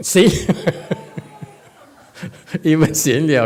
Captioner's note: points and laughs